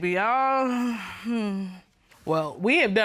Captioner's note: sighs